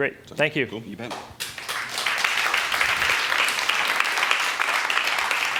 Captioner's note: applause